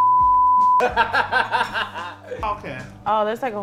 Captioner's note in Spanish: risas